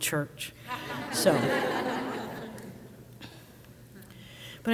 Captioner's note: crowd laughs